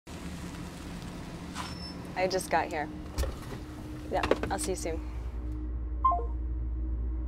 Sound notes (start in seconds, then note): 3.2 seat belt unbuckles